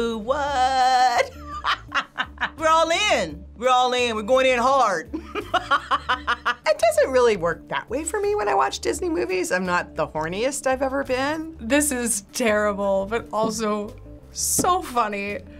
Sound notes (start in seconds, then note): 1.2 laughs; 5.2 laughs